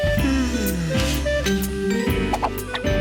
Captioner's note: elevator music; yawning